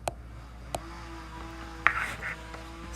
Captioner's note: power saw in background